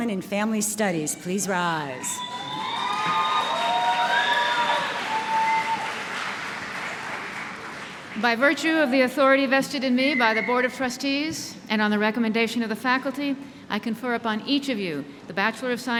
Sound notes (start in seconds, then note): 2.2 applause